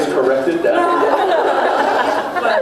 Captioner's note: laughs